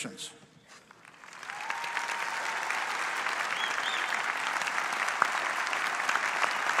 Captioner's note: audience applauds; audience cheers